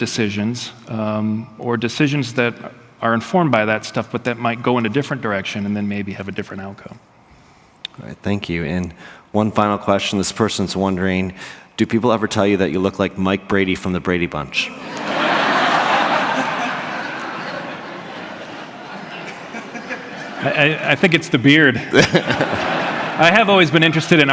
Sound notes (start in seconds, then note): 14.7 laughter